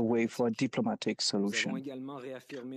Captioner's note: speaking French